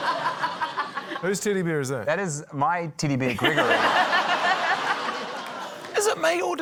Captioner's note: laughter; laughter